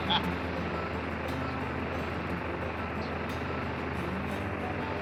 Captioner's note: Baratunde laughs; airplane engine rumbling